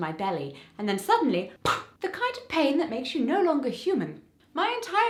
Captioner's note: poof